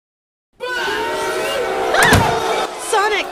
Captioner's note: crowd booing